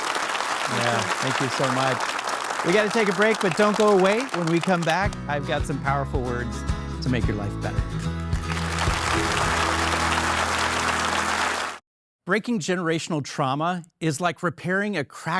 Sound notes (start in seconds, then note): 8.4 audience applauding; 9.1 warm upbeat music